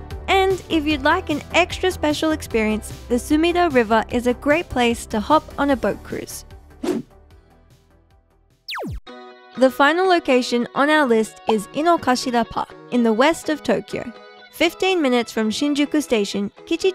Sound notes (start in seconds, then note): 8.7 laser shooting